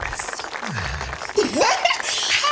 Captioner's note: whispering